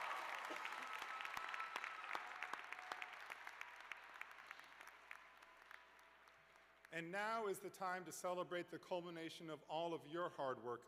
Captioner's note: cheers and applause